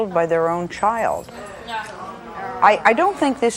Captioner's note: audience murmurs